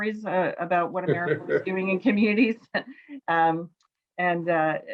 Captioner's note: laughs